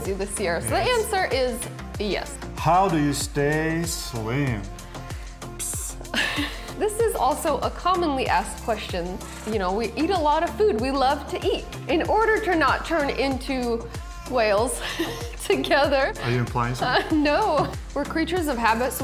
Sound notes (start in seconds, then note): 14.6 laughing